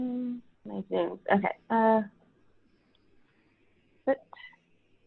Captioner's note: speaks faintly